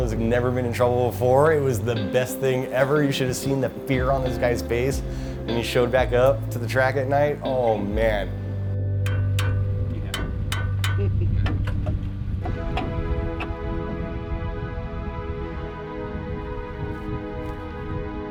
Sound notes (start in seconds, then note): 9.0 metal clangs; 13.0 dramatic music